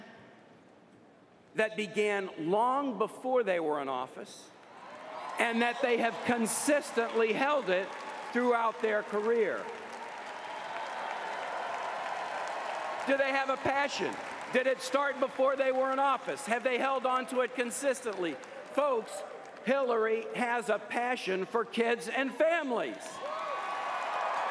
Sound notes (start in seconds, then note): 4.4 applause